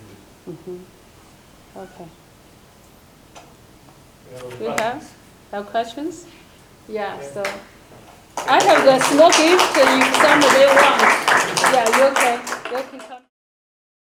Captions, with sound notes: Okay. (murmurs) We have no questions? Yeah, so-- (applause muffles speaker) Yeah, you can come...